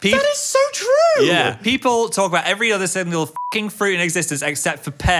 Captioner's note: beeps